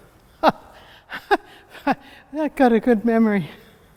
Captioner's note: chuckles